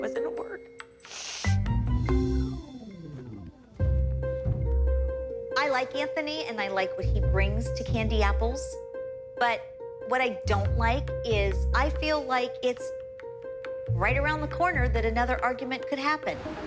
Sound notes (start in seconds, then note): 1.0 sniffing